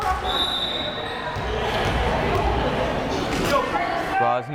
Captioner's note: whistle blares